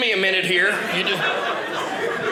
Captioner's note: audience laughing